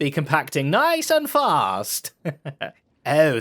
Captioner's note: laughs